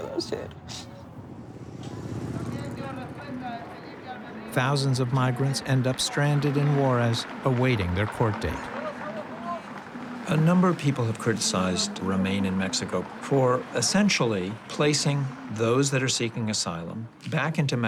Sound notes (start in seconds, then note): 1.6 sniffles